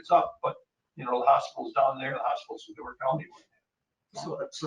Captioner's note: speaking faintly